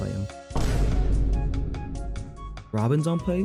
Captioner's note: socking Vine boom